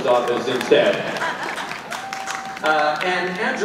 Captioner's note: audience applauding